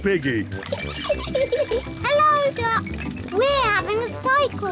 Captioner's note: giggles